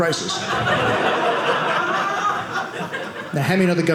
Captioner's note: audience laughing